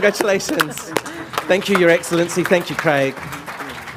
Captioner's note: laughter